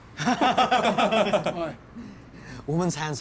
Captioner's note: laughter